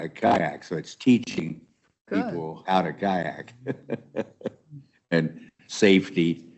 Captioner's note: chuckles